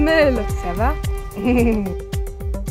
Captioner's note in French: rires